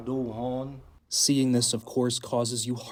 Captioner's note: through translator